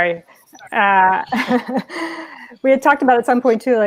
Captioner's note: laughing